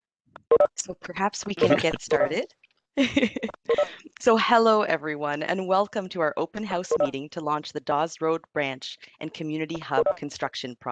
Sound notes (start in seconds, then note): 3.0 chuckle